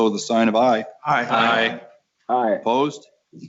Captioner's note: multiple voices